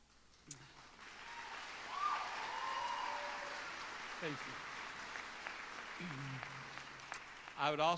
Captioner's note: applause